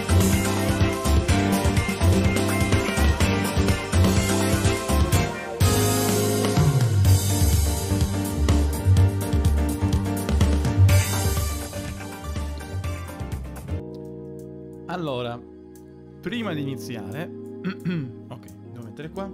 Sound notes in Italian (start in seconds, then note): 10.9 Applauso